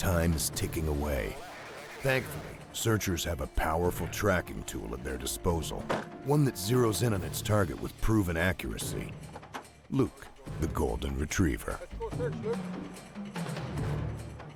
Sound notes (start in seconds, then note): 6.5 voiceover